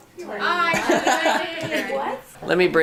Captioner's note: group laughter